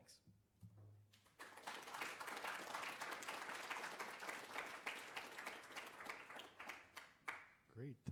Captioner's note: applause